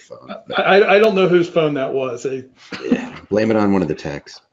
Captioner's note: laughs